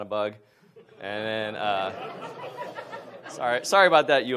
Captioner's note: audience laughs